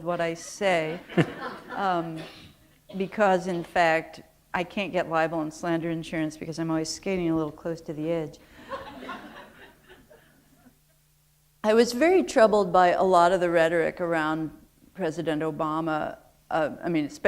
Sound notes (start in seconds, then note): 8.6 laughter